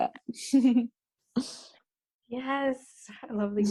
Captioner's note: laughs